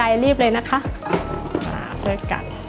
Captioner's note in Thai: เสียงแพ็คของ